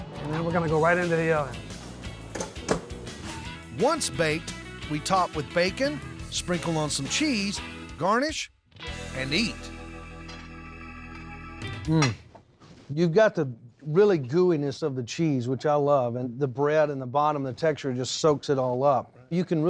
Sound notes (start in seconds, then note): 2.5 oven door closes